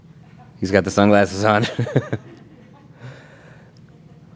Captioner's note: laughs